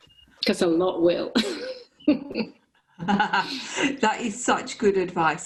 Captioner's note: laughter